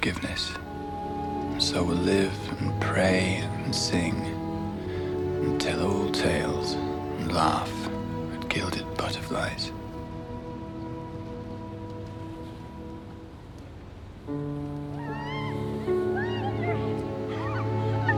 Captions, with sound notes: "so we'll live and pray and sing "and tell old tales and laugh "at gilded butterflies." (children laughing)